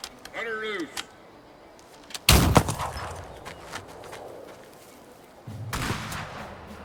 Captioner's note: gunshots blasting